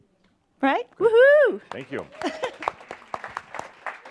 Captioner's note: some applause